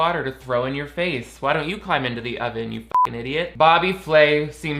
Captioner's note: beep